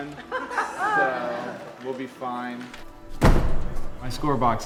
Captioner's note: laughter